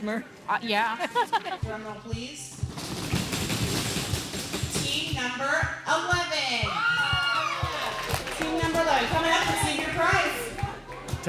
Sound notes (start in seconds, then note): 1.0 laughs; 2.7 children banging